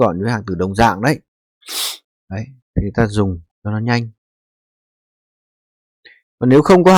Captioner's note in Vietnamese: khịt mũi